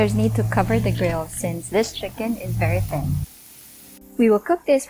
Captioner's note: engine revving; sizzling